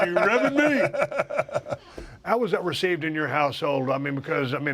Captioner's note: laugh